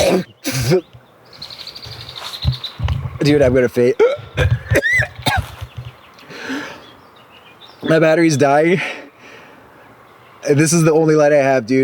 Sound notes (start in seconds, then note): 5.9 heaving